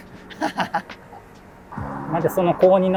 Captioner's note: laughing